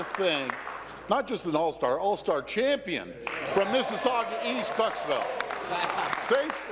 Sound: applause

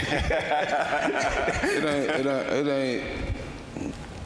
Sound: panel laughing

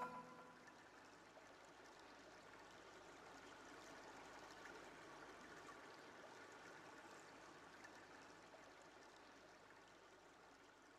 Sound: sound of running water

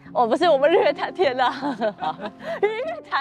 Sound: the photographer fainted with laughter

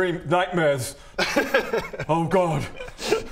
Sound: coy laugh

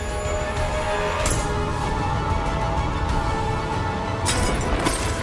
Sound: shimmering; chain crackling

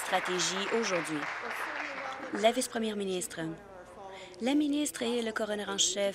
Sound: applause

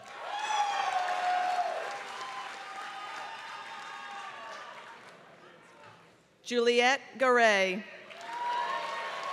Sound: applause; applause

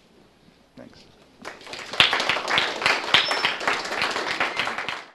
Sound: applause

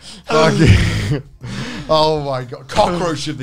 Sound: laughing

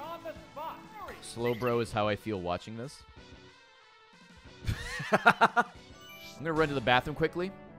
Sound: laughs

